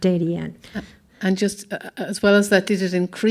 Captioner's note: voiceover